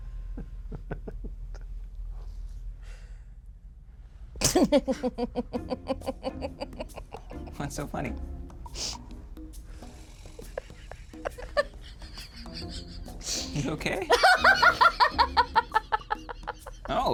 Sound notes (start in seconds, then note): 0.4 laughs; 4.4 laughs; 10.4 laughs